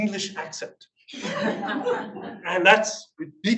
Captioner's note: audience laughs